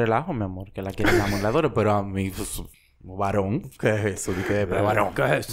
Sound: laughs

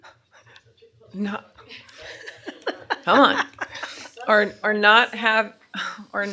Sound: laughter

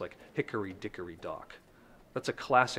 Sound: voice-over

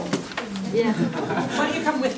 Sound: voiceover

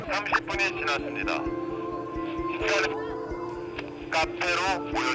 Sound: gets radioed

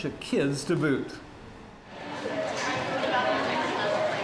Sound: indistinct chatter

